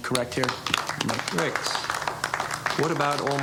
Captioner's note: audience clapping lightly